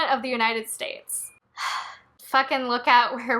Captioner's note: sigh